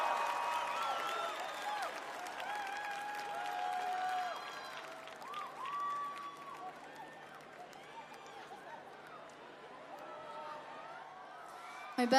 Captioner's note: crowd cheering